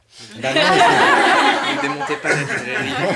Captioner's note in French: rires